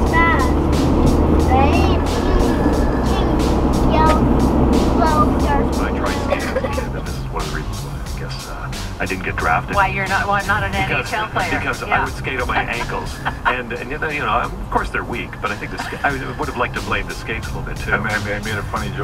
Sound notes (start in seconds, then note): 7.4 cbc radio playing - hockey player promoting sports for kids